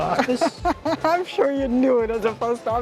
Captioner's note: laughs